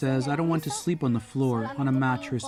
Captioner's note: speaking alternate language